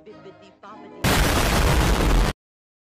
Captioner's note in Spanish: Explosion